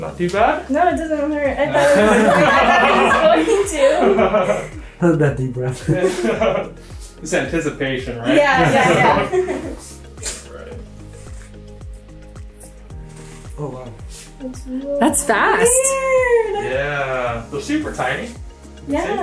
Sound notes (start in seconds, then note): 1.7 all laughing